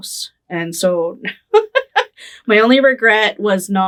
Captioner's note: laughing